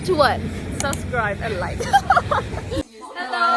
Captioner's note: laughs